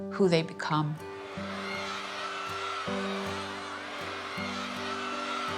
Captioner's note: children cheering